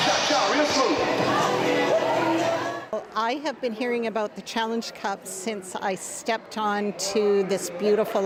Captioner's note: crowd Noise